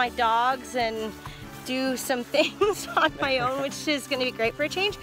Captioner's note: laughing